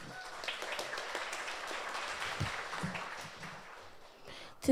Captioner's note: audience applauds